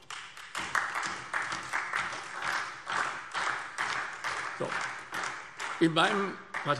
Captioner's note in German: Beifall SPD und DIE LINKE